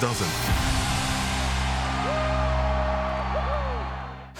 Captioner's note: cheering